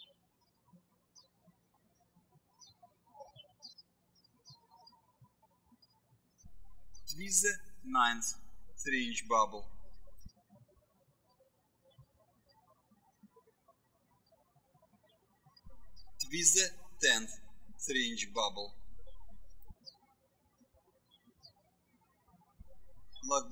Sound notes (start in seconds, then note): 0.1 birds chirping; 10.5 birds chirping; 19.7 birds chirping